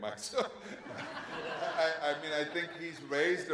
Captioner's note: audience laughs